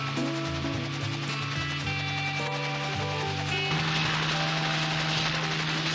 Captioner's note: helicopter sound